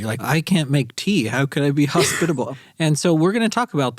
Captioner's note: laughs